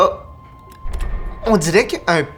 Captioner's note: a small click